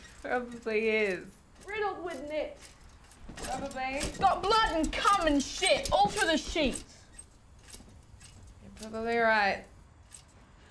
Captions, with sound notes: - Probably is - Riddle with knits - Probably - But blood and cum and shit all through the sheets. [Squeaky mattress spring] - You're probably right